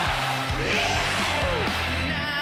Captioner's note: crowd cheering